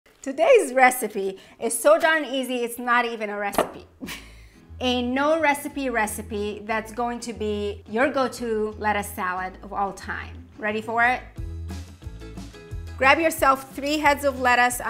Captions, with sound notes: - Today's recipe is so darn easy, it's not even a recipe. (chuckles) A no recipe recipe that's going to be your go-to lettuce salad of all time. Ready for it? Grab yourself three heads of lettuce.